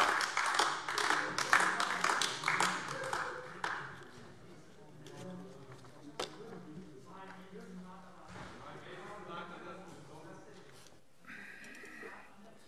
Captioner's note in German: Beifall AfD - Zurufe: Das war im Ältestenrat aber anders vereinbart!